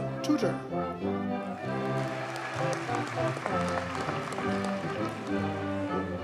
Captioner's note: audience cheers and applauds